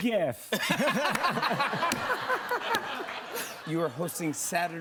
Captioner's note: laughter